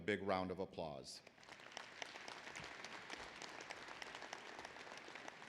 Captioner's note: applause